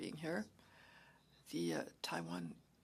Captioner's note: speaking French